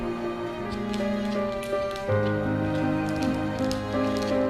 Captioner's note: dog footsteps